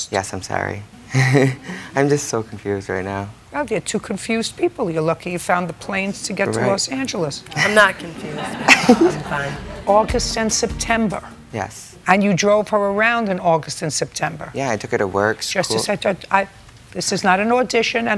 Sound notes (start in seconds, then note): 1.1 chuckles; 7.6 laughter